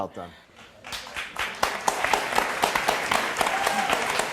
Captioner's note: audience clapping